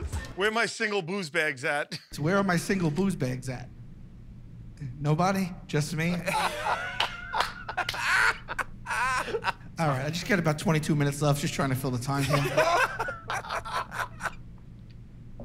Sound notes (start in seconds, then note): 6.1 laughter